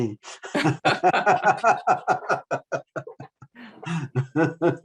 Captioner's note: panelists laughing